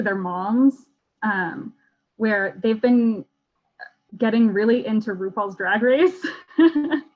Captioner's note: laughs